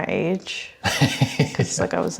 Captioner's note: laughs